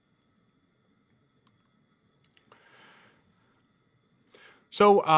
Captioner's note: computer mouse clicking